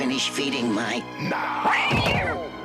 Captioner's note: mrreeoww